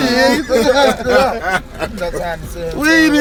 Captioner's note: all laughing